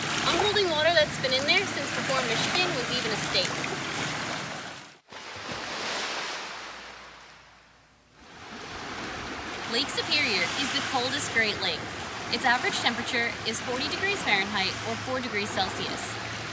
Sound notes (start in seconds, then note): 5.2 waves Crashing